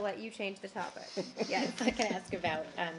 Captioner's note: laughter